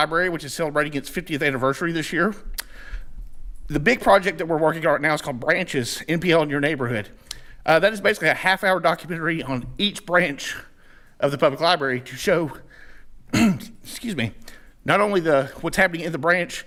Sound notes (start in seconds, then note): 13.3 clears throat